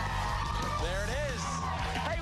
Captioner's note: cheers and applause